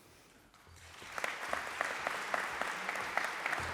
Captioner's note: applause